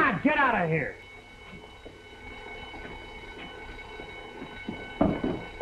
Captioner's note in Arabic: رنين المنبه